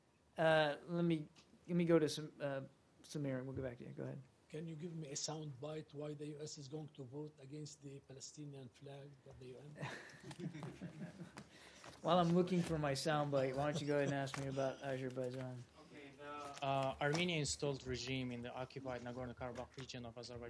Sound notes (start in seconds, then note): 9.7 laughter